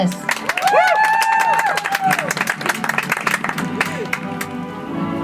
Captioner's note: audience applauds; soft music